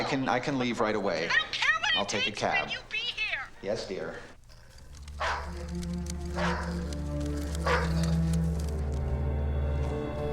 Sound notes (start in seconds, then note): 1.9 on phone; 4.1 on phone; 7.6 dog barking